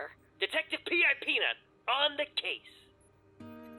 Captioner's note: none